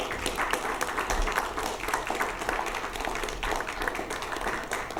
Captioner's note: applause